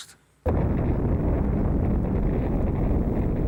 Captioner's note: explosion roars